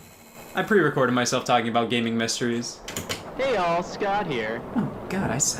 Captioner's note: Scott on tape player